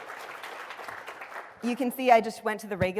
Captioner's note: applause